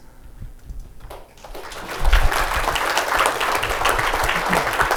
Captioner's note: applause